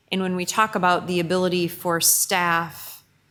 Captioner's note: none